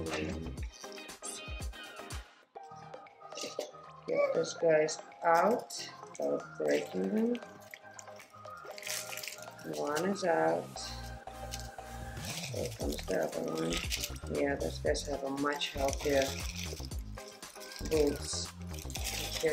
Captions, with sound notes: Get these guys out without breaking them, (Soil falls) One is out, here comes the other one, yeah, these guys have much healthier roots.